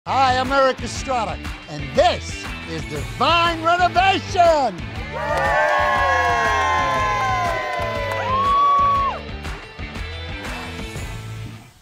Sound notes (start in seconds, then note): 5.0 everyone cheering; 9.2 light music